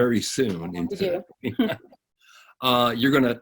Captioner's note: laughing